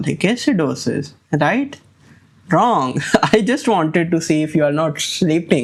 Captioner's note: chuckles